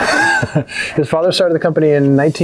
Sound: laughing

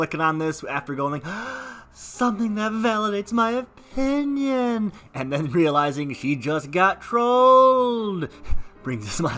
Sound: gasp

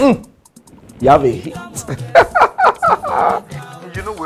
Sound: laughter

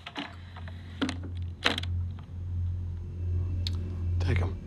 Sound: briefcase clicks

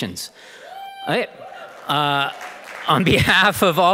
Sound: audience cheering and applauding

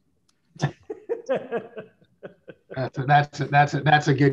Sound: laughing

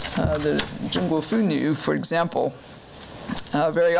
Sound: foreign language

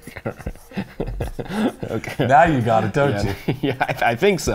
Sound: laughing

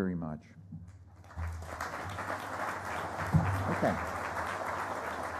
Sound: applause

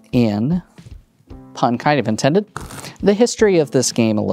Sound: cards riffling

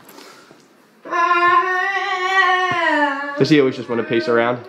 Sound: vocalizes

